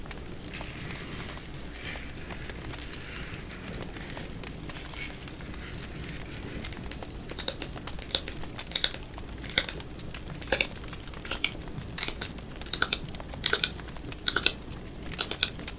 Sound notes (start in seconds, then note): 0.5 scratching; 6.9 rhythmic tapping